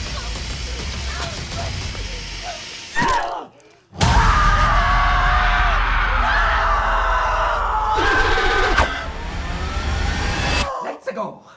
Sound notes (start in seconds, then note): 4.0 screams of horror